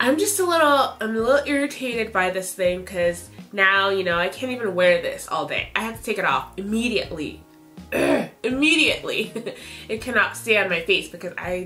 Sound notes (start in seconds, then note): 7.9 grunts; 9.4 chuckles